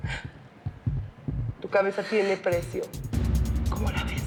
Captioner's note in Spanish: none